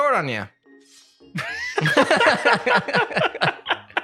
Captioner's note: laughter